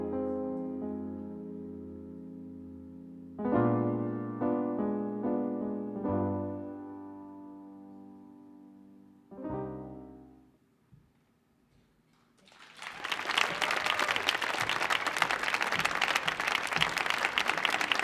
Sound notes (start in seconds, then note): 12.3 audience applauding